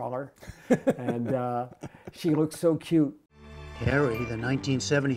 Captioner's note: laughter